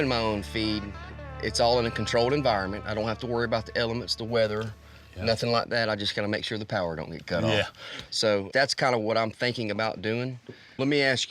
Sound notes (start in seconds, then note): none